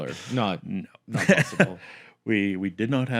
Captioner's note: laugh